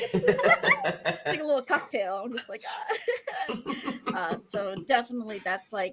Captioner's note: laughs